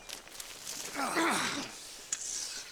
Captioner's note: Cador grunting